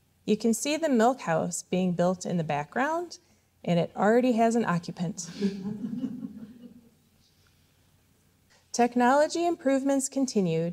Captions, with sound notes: You can see the milk house being built in the background, and it already has an occupant. [audience laughing] Technology improvements continued,